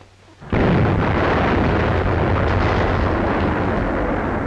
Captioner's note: explosion booms